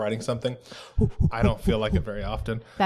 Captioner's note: makes her version of gorilla whooping noises